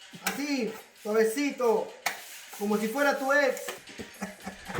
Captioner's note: speaking spanish